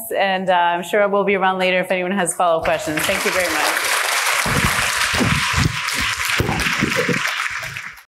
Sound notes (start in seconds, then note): 2.7 audience applauding